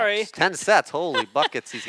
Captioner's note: laughs